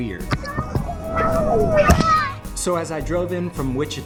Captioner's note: children shouting